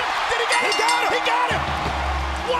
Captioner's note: crowd chatter